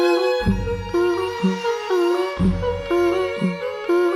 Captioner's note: blowing